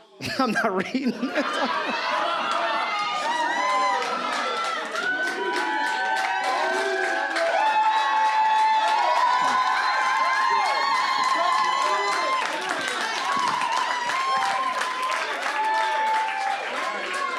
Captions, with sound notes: I'm not reading in this. (Audience Cheers) C’Mon! Just read it!